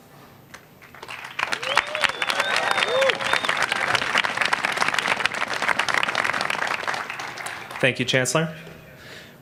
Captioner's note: applause